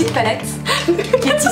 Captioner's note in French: rires